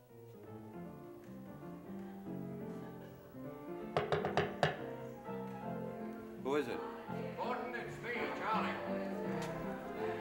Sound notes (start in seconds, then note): 0.1 player piano music; 3.9 loud knocking on door